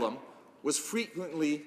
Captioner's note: speaking Alternate Language